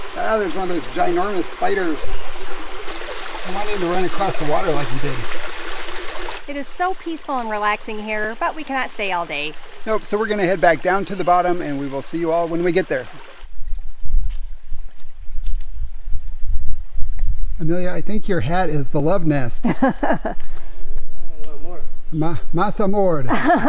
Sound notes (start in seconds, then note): 19.6 laughs